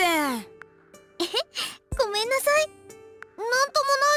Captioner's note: chuckle